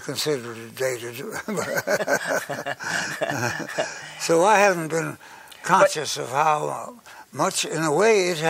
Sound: laughs

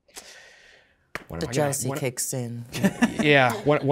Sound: participants chuckling

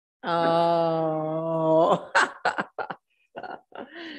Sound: laughs

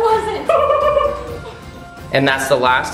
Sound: laughing

